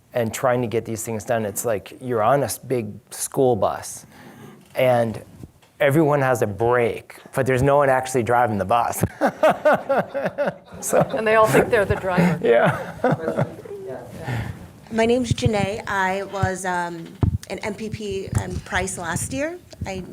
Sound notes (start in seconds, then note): 9.1 laughs